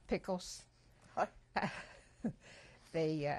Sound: laughter

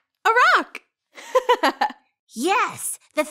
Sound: girl giggles

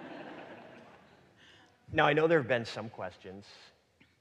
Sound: audience laughing

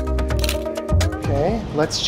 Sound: shutter snaps

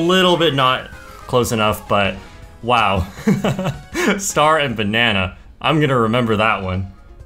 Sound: laughs

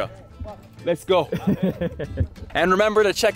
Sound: laughing

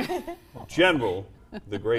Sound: laughter

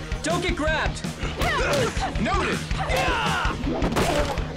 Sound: Kat grunts

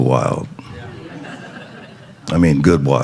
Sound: congregation chuckling

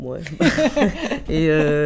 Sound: laughs

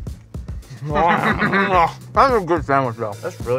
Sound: laughs

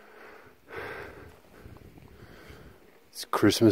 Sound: breathing heavily

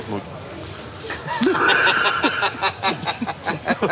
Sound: all three laugh

